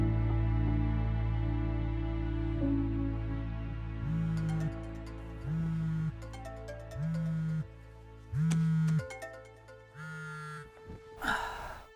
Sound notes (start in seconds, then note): 4.0 phone buzzing